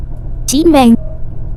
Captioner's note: Chinese